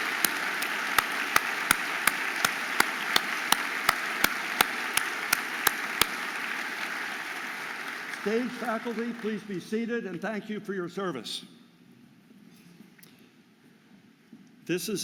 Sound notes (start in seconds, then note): 2.3 audience applauding